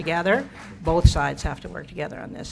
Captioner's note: applause